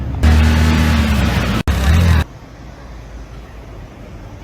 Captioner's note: car engine revving